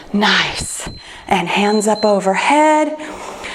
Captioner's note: timer beeps